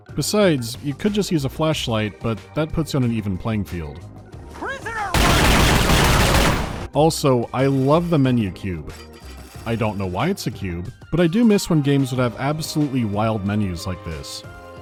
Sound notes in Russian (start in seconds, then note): 5.1 гулкое пиу-пиу-пиу